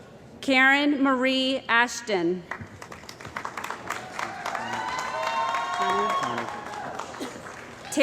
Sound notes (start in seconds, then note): 3.3 cheering & Applause